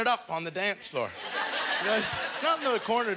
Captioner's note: audience laughter